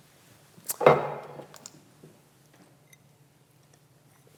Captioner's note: glass clanking